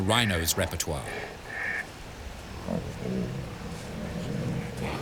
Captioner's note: rhinos grunting